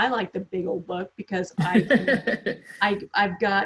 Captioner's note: laughs